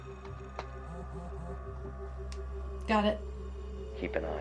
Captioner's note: phone vibrates